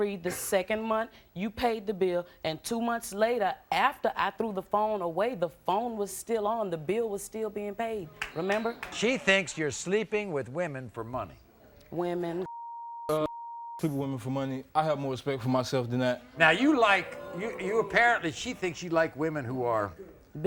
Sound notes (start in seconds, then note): 12.4 beep; 12.4 beep, beep